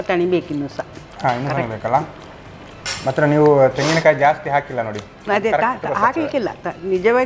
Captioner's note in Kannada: ಬುಸುಗುಟ್ಟುವಿಕೆ